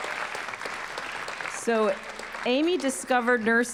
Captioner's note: cheers and applause